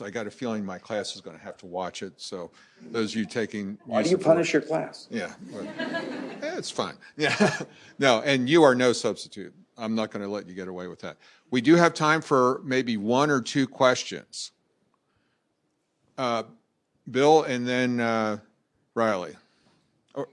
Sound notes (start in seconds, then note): 2.8 chuckling; 5.4 laughter; 7.2 laughs